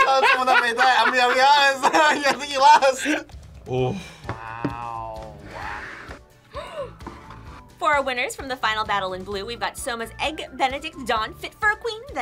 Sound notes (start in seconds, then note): 6.5 gasps